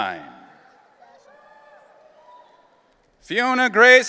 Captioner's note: audience cheering